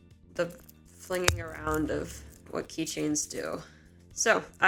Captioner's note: hits mic